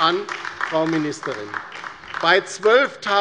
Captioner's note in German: Beifall bei der LINKEN